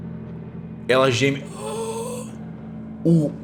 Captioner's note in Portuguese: Grunhidos